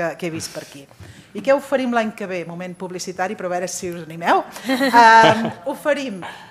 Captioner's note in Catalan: riures